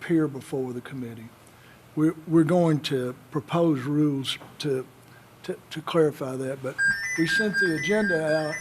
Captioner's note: an electronic tone